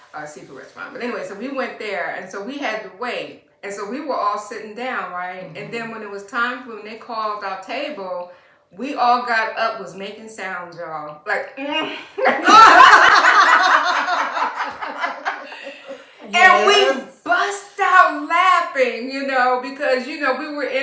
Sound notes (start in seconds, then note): 12.0 laughter